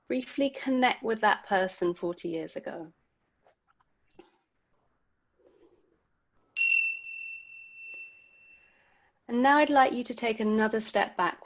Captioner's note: bell sound